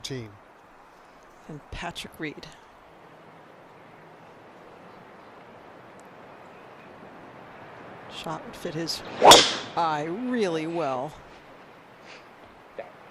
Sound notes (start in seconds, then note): none